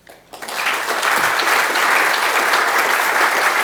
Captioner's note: audience applauds